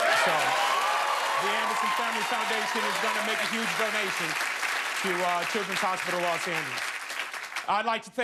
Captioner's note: cheers and applause